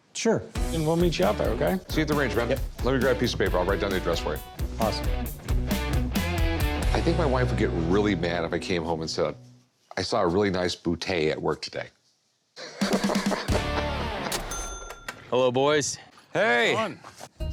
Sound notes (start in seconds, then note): 12.6 laughs